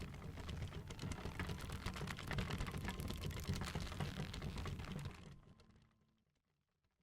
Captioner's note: wood creeking, rope stretching